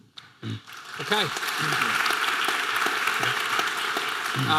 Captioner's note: audience applause